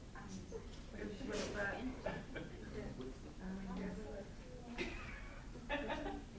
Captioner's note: students speaking amongst themselves